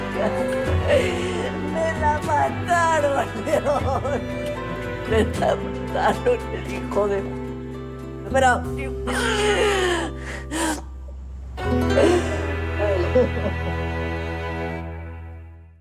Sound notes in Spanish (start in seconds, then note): 5.0 Sollozos